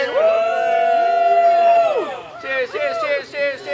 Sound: cheering

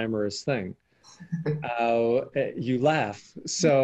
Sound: chuckling

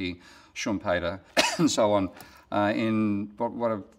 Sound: coughs

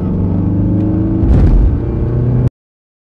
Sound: thud

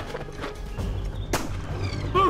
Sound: gunshot

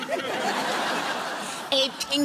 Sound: laughter

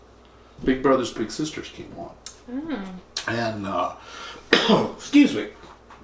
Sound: coughs

